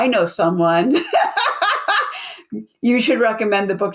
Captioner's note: laughs